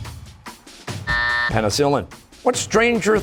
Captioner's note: buzzer